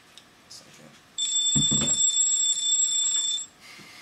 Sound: telephone ringing

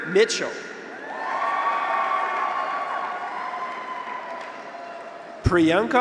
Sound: graduates cheer; audience applauds

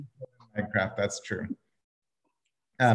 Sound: crackling drowns out

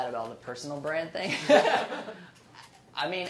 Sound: laughing

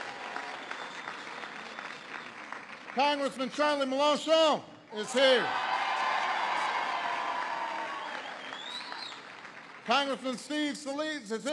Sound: applause

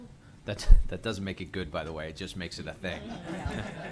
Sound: laughter

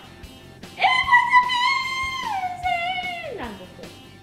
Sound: screams

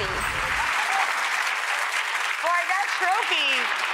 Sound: audience applauds

